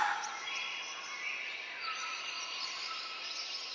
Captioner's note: birds chirping